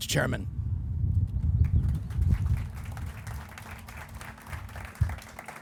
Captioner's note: crowd applauding